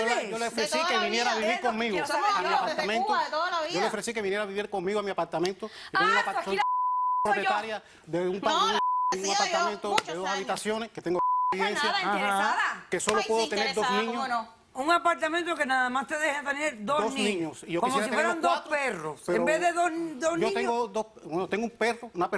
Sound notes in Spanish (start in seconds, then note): 8.7 Bip